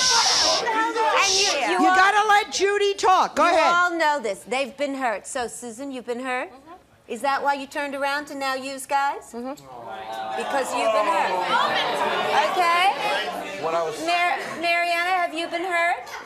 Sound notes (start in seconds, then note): 9.9 audience groans